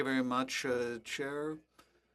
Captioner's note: speaking French